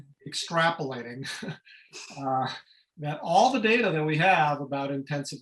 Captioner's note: laughter